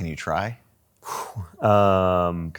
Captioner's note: blows air out